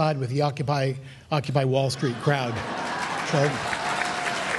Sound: laughter

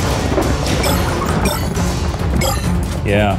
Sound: shards bleeping

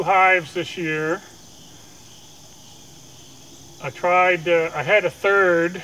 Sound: crickets chirping

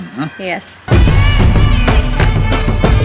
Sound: Juhi Chawla laughs

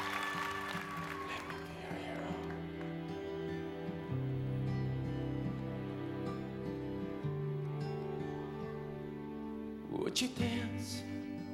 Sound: cheers and applause

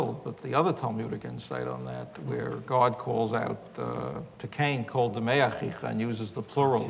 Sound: none

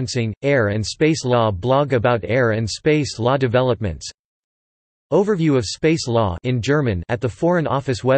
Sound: in German

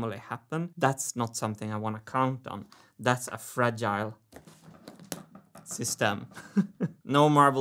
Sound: laughs

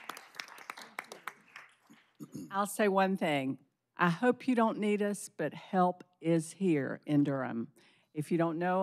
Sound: applause

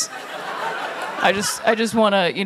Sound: laughter

